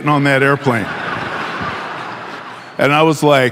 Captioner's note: audience laughing